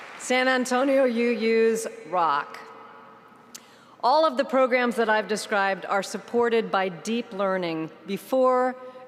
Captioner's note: applause